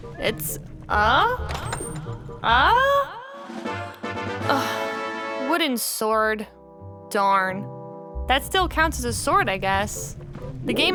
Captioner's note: sigh